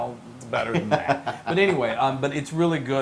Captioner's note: laugh